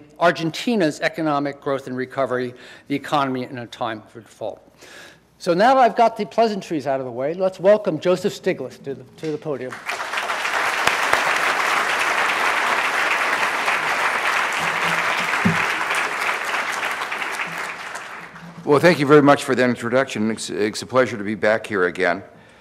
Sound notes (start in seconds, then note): 9.7 audience applauding